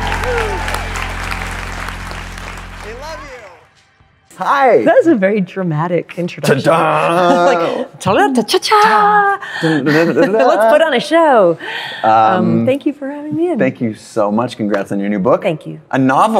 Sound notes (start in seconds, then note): 0.0 applause; 8.4 makes jazzy intro sounds